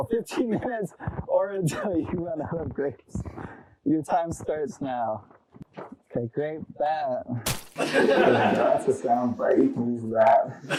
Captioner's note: laughing; splat sound; audience laughter